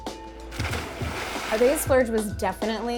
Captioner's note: water splashing